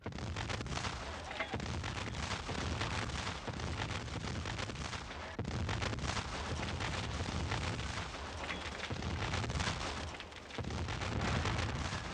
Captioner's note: sustained, heavy cannon fire